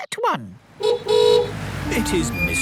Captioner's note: horn honking